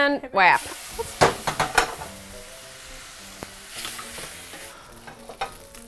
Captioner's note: pan sizzles